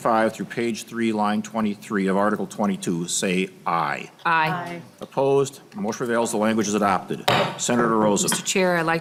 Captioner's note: chorus of ayes